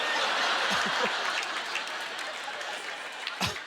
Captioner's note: audience laughter